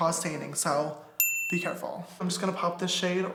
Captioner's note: wink noise